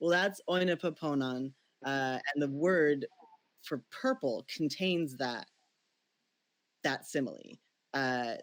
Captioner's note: speaks Ancient Greek